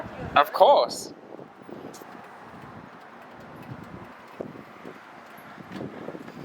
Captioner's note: wind blowing